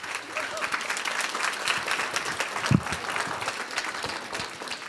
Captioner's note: applause